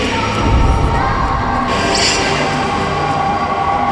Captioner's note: screaming